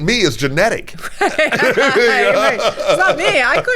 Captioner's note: both laughing